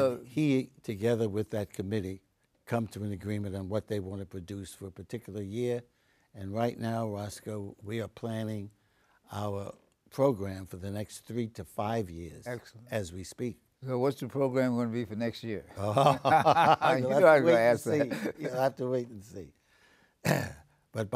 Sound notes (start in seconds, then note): 15.8 laughing